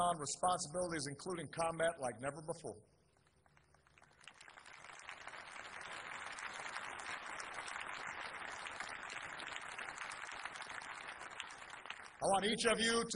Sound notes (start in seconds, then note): 5.8 applause